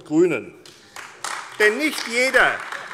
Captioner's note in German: Beifall AfD